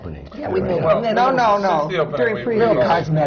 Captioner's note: laughs